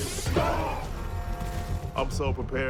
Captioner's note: bell tolls